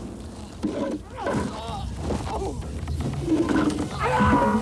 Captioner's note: gun firing; fighters moaning